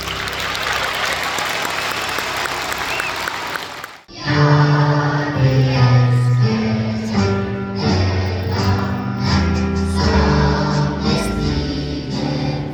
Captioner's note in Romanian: Aplauze